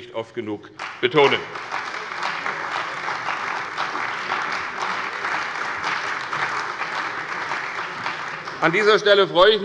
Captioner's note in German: Beifall bei der CDU und dem BÜNDNIS 90/DIE GRÜNEN